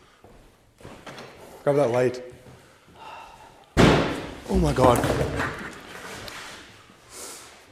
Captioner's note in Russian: Громкий стук в углу церкви